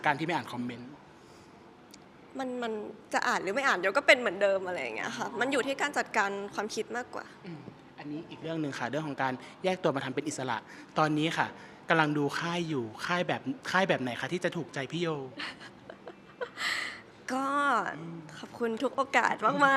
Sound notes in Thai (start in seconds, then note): 15.4 เสียงหัวเราะ